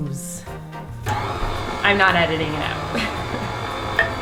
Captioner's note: chuckle